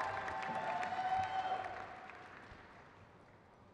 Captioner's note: crowd cheers